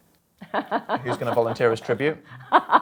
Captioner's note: laughing